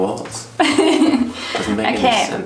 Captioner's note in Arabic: يضحك